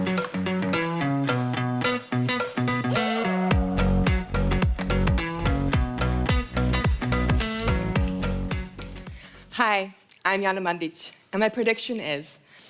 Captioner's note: applause